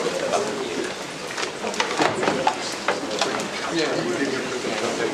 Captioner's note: indistinct conversation